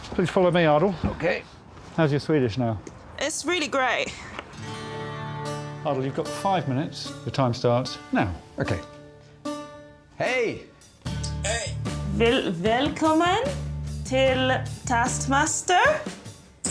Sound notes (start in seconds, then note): 4.7 acoustic music playing; 10.2 speaks Swedish; 12.5 speaking Swedish